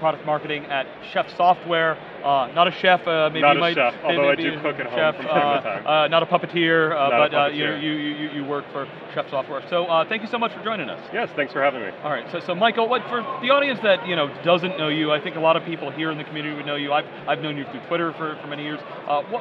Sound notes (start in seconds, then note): 3.5 laughing